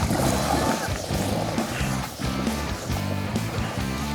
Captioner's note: water splashing; rock music